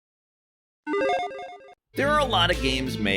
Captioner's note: electronic chiming